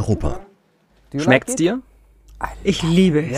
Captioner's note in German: englisch